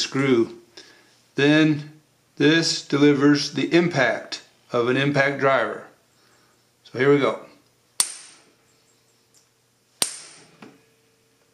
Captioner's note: hammer